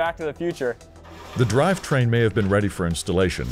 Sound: voiceover

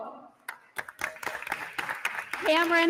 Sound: attendees applauding

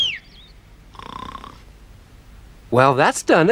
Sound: whistles once more; Sniff stops snoring

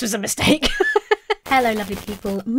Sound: laughs

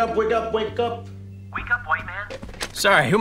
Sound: on phone

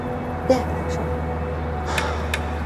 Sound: sighing

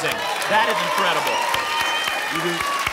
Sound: applause and cheering

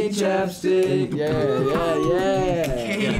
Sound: beatboxes

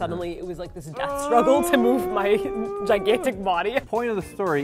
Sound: groans

